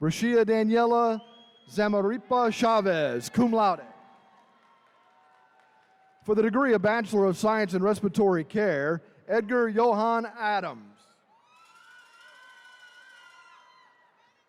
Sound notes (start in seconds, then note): 4.1 attendees cheering; 11.3 attendees cheering